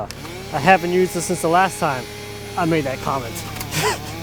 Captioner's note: chainsaw buzzing; laughs